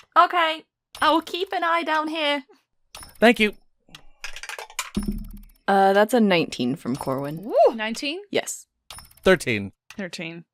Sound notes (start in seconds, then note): 4.2 dice clacks